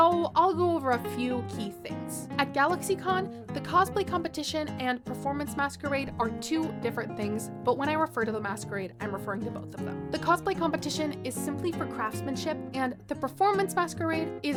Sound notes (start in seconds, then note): none